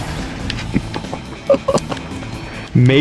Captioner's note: laughs to myself